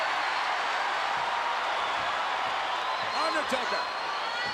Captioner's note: crowd cheering